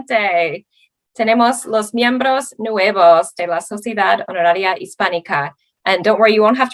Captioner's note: speaking Spanish